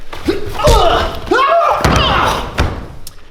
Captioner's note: yells